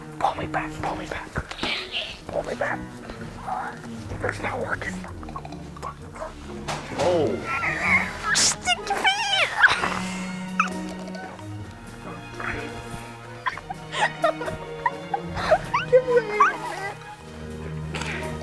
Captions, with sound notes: - Pull me back, pull me back! It's not working! (groaning with effort) - Stinky feet! (giggling)